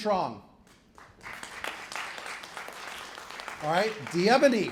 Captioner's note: applause